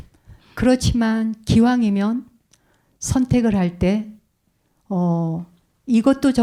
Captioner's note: speaking in Korean